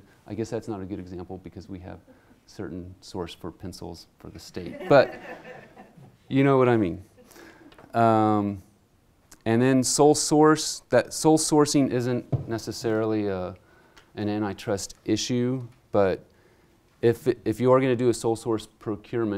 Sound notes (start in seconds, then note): 4.6 laughter